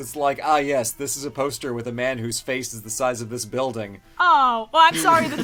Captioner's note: laughs